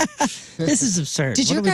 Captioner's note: laughing